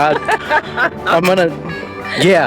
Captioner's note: laughs